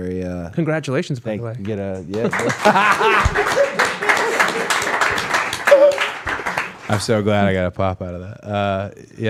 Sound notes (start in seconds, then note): 1.9 all applauding; 2.1 Cody laughing